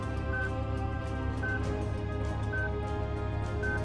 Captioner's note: beeping